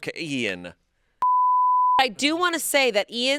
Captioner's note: audio beeping